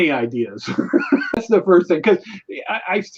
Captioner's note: laughs